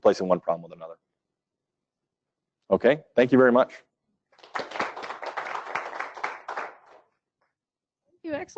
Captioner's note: applause